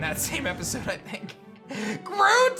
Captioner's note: giggles